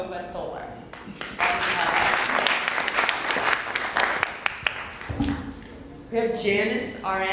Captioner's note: applause